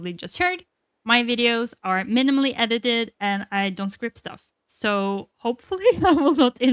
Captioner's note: laughs